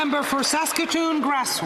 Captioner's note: applause